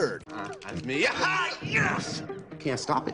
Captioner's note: excited yelling